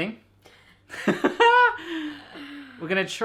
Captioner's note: laughing